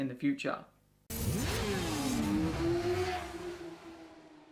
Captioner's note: engine roaring